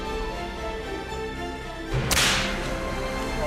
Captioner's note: whip cracks